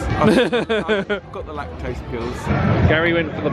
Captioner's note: laughs